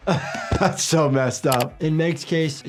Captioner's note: chuckles